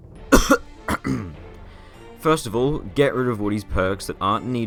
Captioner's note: cough